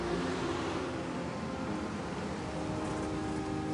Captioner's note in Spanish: Ruido de motor